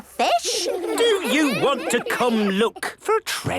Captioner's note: children giggling